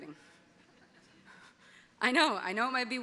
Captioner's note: audience laughing